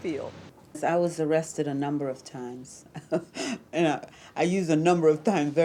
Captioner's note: chuckling